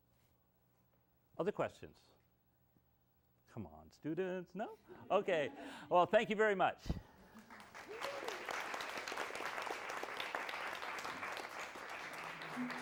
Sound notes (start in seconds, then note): 7.3 applause